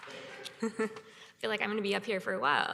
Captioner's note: chuckles